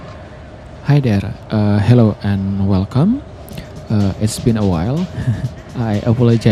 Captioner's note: chuckles